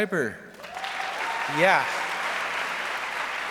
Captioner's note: audience applauds